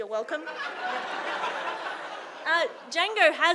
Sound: audience laughing

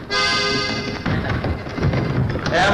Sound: running Footsteps

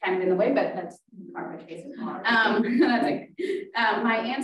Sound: speaking faintly

